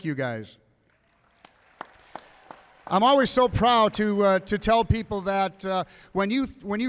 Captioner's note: applause